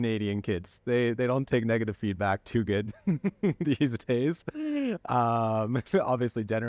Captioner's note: laughter